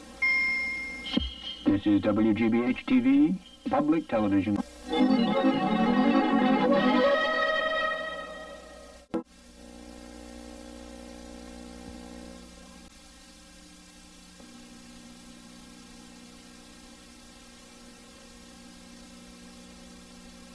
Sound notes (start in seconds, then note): 0.2 ding; 4.9 eerie synthesizer music playing; 10.3 VHS static; 14.0 more VHS static